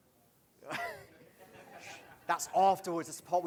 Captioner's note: laughs